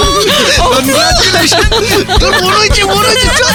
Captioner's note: laughs and screams all around